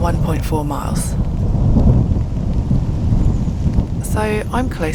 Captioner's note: thunder